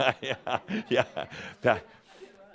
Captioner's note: chuckles